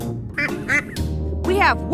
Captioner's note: duck quacking